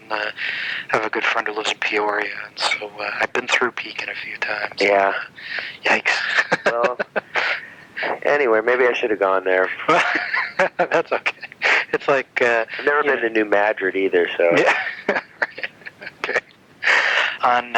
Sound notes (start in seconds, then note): 5.8 laughs; 9.6 laughs; 14.4 laughs